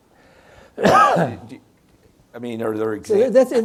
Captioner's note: coughs